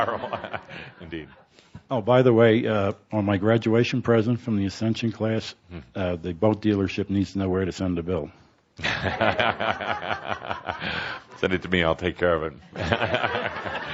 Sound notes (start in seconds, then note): 8.8 laughs